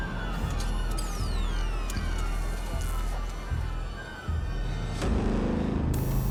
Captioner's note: robot whirring mechanically